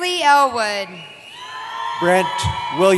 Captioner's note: cheering